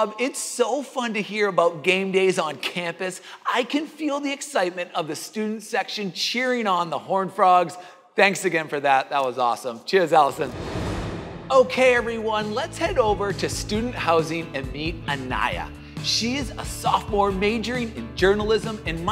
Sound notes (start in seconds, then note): 10.2 air swooshing